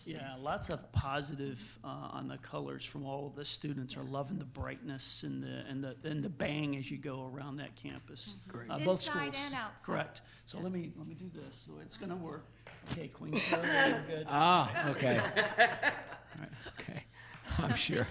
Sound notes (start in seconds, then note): 14.9 laughs